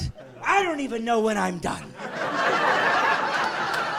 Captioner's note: laughing